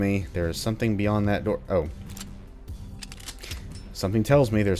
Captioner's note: MAC-10 reloading